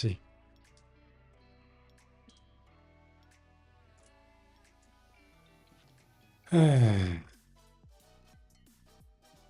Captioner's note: sighs